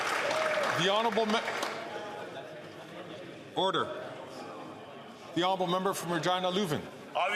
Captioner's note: some Applause